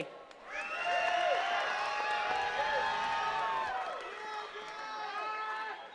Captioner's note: attendees cheering and clapping